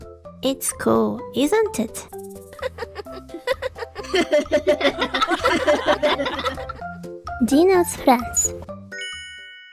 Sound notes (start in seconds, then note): 2.5 Sunny Giraffe is laughing; 2.5 everyone is laughing